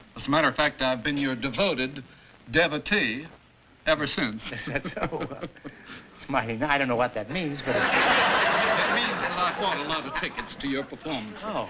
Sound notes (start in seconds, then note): 7.6 laughter